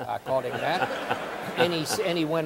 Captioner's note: audience laughing